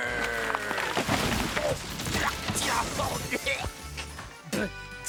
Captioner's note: crashing noises